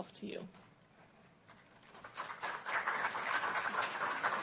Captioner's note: applause